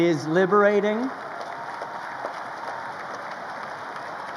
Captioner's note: crowd applauding